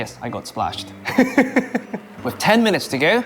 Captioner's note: laughs